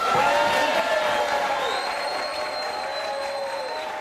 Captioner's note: audience cheering